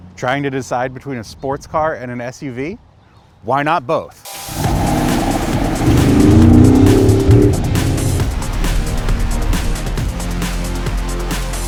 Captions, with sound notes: - Trying to decide between a sports car and an SUV? Why not both? (upbeat rock music) (engine revving)